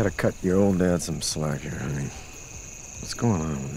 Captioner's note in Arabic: none